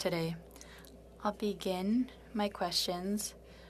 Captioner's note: speaking French